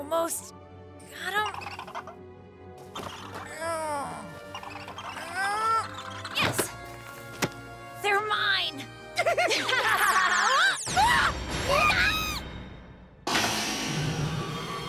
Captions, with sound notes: Almost got them. [Ash grunting] Yes! They're mine! [both laugh] [all yelp]